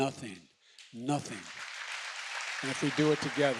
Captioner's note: applause